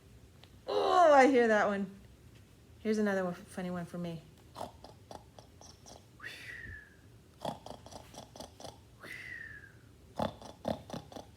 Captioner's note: snorts three times inward and whistles out